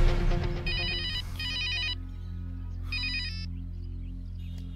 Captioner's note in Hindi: फ़ोन की घंटी बजते हुए